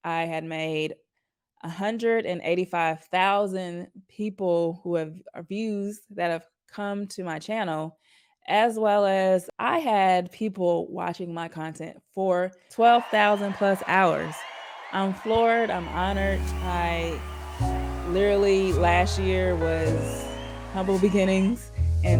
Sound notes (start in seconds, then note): 13.8 crowd cheering; 15.8 tranquil ambient music